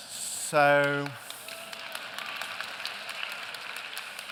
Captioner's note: applause